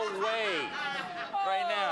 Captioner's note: laughter